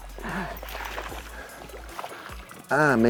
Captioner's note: water splashing